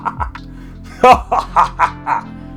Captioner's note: laughter?; laughter!